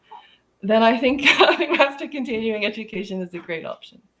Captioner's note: laughing